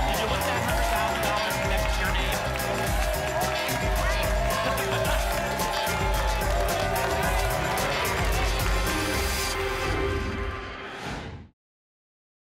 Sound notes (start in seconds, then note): 2.7 applause and cheering cont; 9.2 whoosh